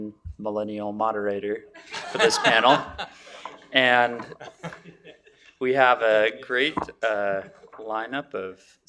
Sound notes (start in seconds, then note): 1.8 laughter